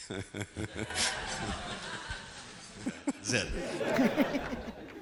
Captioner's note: laughing